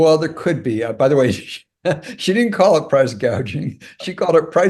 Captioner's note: laugh